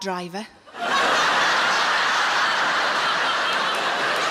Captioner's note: audience laughing